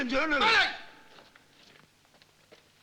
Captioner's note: Malay spoken audio